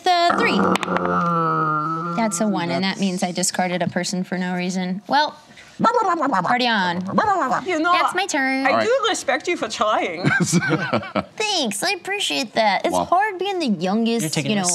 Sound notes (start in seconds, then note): 0.3 growls; 6.0 barks; 10.2 laughs